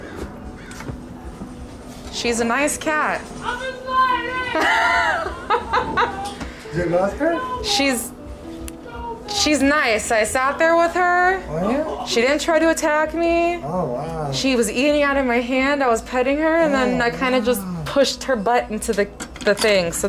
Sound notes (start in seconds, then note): 4.5 laughter